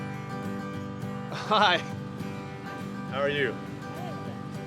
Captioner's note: chuckles